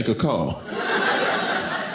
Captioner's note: audience laughing